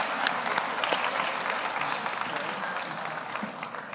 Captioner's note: audience applauding